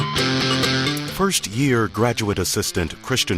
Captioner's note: edgy rock music; voiceover